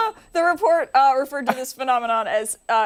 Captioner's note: laughter